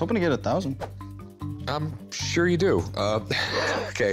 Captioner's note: laughs